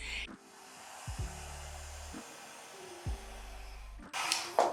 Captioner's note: blower whooshing